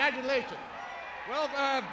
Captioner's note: audience cheers